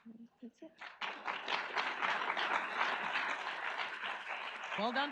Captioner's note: audience applauds